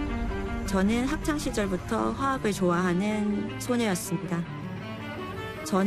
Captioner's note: non-english speech